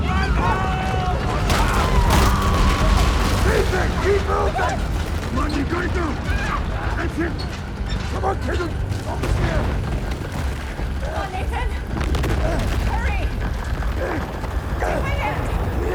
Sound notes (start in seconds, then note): 1.4 rumbling; 12.5 rumbling